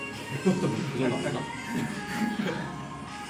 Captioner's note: laughs